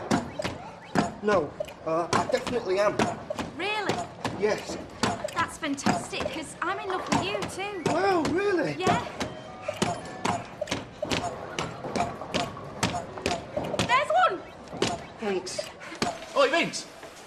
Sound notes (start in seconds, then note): none